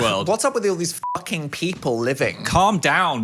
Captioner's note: beep